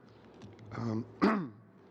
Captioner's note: speaking French